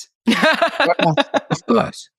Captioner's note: laughs